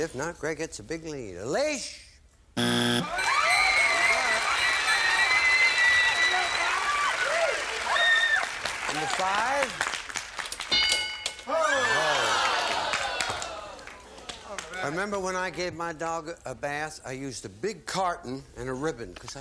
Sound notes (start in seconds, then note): 2.5 buzzer; 10.8 applause